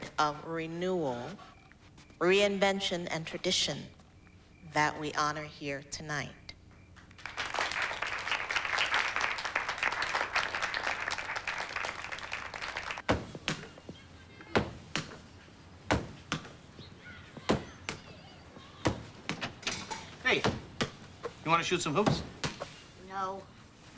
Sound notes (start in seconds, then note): 7.1 applause; 15.7 ball bounces